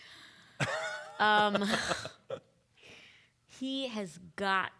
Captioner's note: laughing